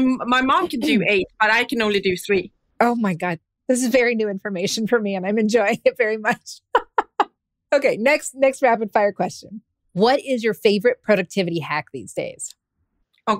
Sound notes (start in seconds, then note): 6.6 laughs